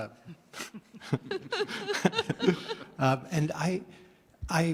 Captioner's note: laughing